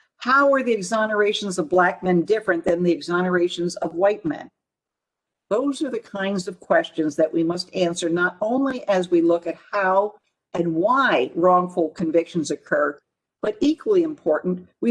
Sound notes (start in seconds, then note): none